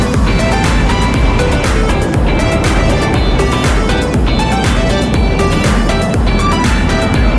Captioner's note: ride wheels skidding; bright upbeat music